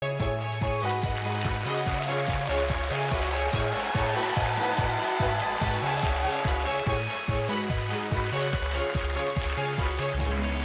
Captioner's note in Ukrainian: оплески